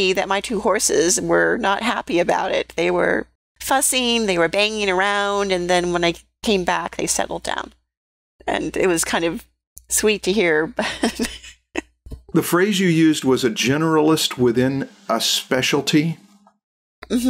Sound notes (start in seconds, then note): 10.8 laughter